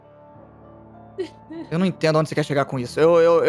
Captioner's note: Erin laughs